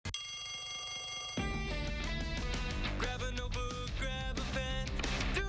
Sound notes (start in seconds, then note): 3.0 bell rings